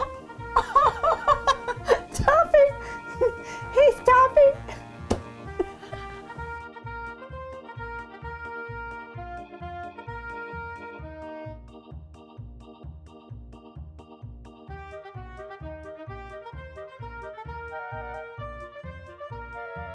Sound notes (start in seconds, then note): 0.5 laughing; 5.1 laughing